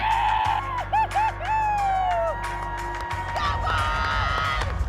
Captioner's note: fans cheering